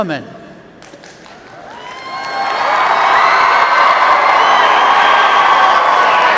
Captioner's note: cheers